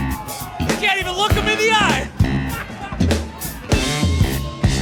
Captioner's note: audience cheering; laughs